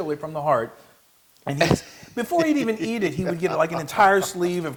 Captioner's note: laugh